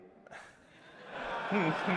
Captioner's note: laughter